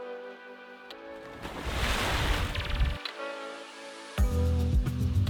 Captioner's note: water splash